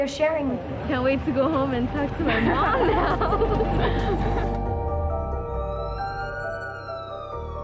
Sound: laughter; music, sirens

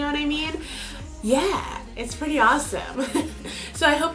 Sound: laughs

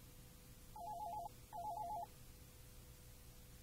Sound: phone rings

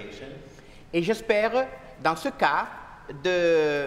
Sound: speaking french

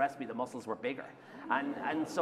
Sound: laughter

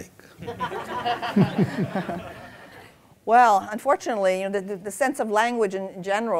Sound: laughter

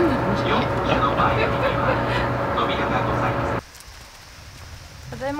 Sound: laughter

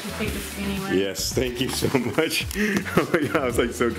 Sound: laughs

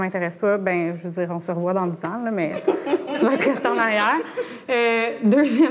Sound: laughs

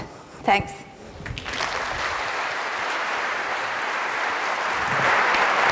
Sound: applause

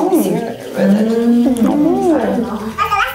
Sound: thoughtful humming

